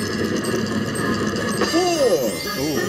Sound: bells dinging

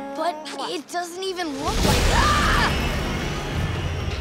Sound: screaming

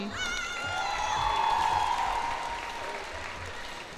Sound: cheers and applause

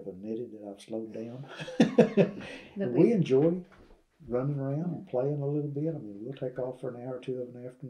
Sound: laughs

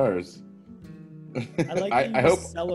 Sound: laugh

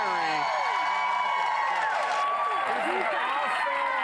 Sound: audience applause

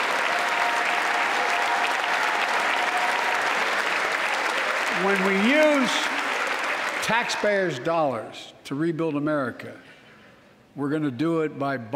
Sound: applause

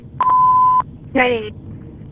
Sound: beep

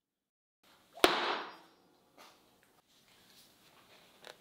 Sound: knife thudding

